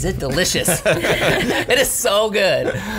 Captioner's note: laughs